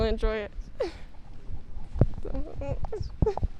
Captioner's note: giggle